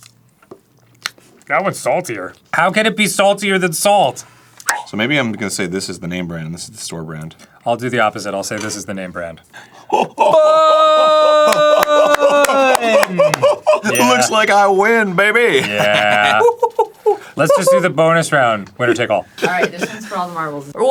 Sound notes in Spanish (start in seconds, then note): 10.2 riéndose como una foca que ladra; 15.6 evoluciona de foca a risa de mono